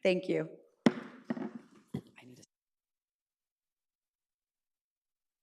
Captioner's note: gavel bangs